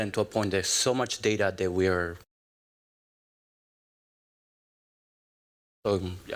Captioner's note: audio out